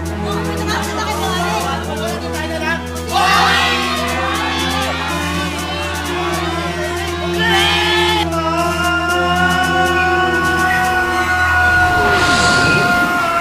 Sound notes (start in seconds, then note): 3.1 crowd; 7.2 screams